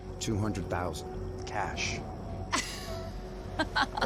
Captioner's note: laughing